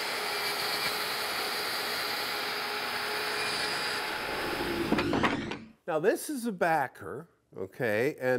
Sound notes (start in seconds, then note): 4.4 wood whooshing